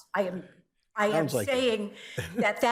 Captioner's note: chuckles